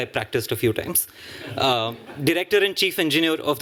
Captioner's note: laughter